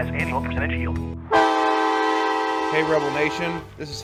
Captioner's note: horn blaring